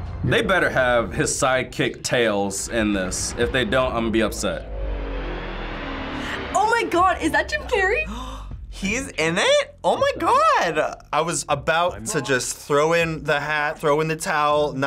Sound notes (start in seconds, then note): 8.0 gasps